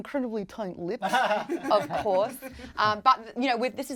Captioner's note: laughs